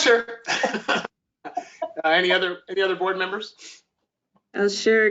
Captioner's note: laughter